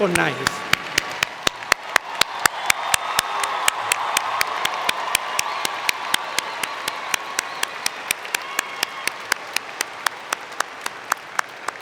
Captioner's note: cheering and Applause